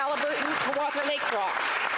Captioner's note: applause